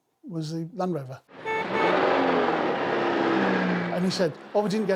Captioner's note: engine revving; car horn beeping